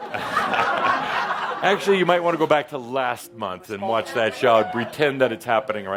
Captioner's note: laughter